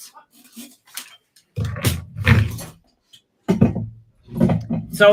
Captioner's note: metal clanking